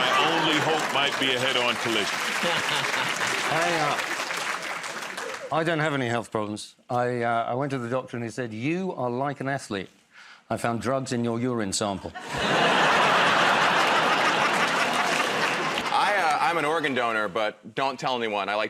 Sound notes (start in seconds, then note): 2.2 laughs; 4.4 applause; 12.1 laughter